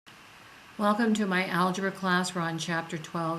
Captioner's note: voiceover